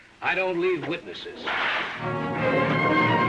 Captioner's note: cracking whip; classical music